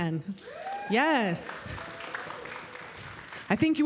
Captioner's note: applause